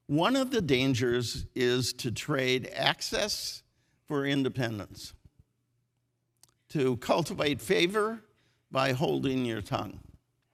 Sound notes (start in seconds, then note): none